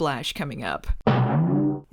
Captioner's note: boing